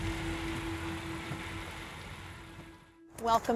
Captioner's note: tires splash